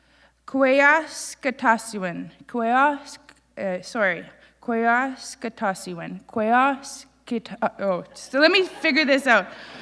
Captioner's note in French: Elle bégaie; Elle bégaie à nouveau